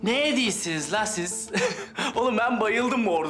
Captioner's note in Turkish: Gülüyor